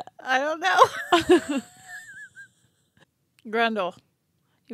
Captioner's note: wheezing